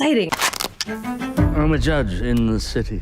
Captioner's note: strap tightens